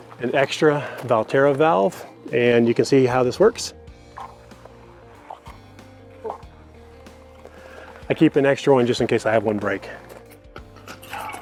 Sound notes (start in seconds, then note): 4.1 clicking